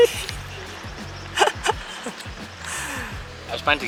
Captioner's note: laughs in pain